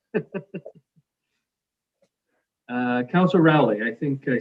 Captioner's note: chuckles softly